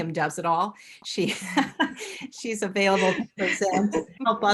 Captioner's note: laughs